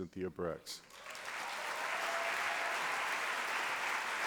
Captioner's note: applause